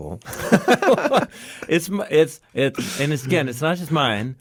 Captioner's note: both laughing